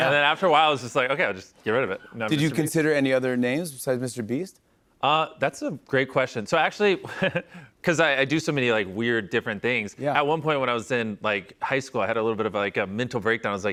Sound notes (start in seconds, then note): 7.0 chuckles